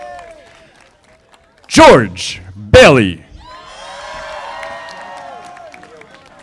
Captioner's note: audience applauding; audience applauding